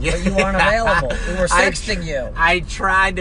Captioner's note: laughing